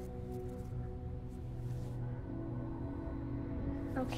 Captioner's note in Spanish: Susurrando